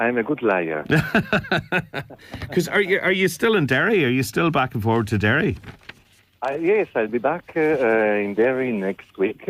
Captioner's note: laughs